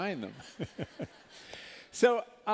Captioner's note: laughter